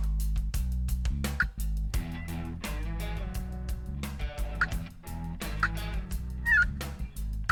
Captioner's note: turkey calling; upbeat music